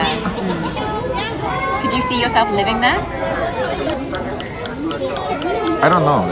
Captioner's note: clock ticking